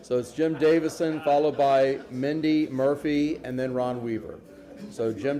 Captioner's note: laughter